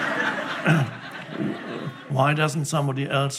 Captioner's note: laughing